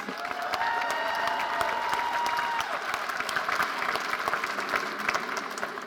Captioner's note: audience cheering and applauding